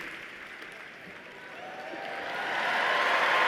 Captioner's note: applause